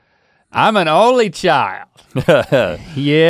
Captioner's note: guffaws